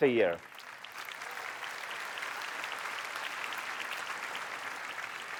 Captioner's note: applause